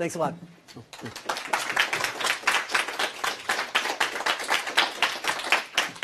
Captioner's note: applause